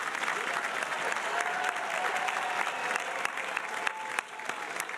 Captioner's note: audience cheering